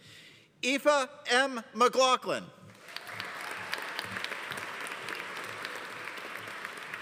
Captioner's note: audience applauding